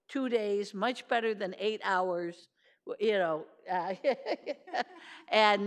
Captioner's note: laughs